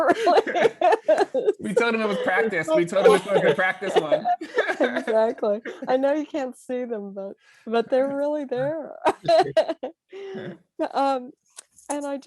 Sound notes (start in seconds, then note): 0.0 laughing; 4.7 both laughing; 9.1 laughing